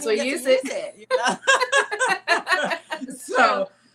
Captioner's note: laughing